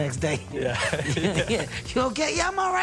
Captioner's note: both laugh